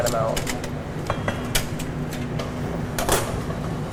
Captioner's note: clattering